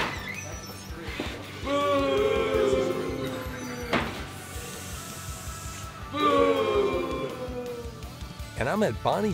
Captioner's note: audience booing and hissing